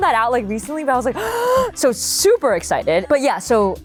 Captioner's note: gasps